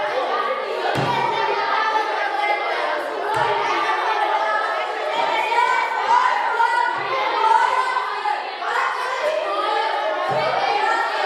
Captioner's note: loudly arguing, shouting nonsense, speaking gibberish